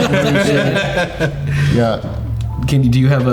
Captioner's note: all laughing